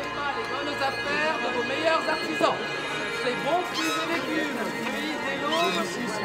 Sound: indistinct chatter

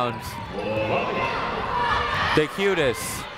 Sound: people shouting in the crowd

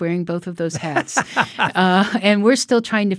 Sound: laughing

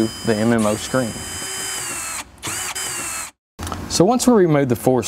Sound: screwdriver hums

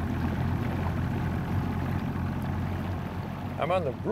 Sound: motor running

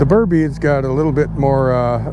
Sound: boat engine idling

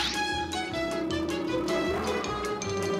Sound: roaring

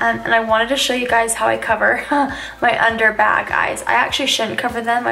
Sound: laughs

